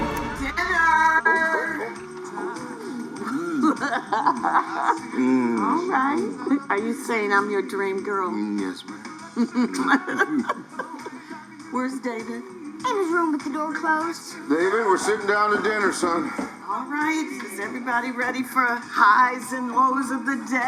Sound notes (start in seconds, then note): 3.3 laughing; 9.3 both laugh